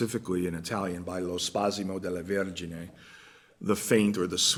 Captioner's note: italian